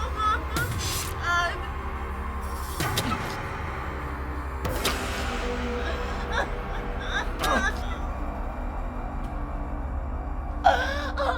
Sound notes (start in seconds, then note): 0.0 Kathy crying; 4.1 dramatic music; 5.7 Kathy crying